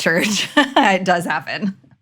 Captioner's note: laughs